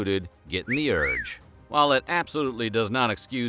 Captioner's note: cat call sound